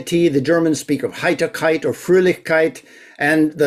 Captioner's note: german